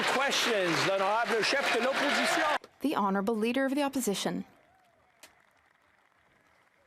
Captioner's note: some Applause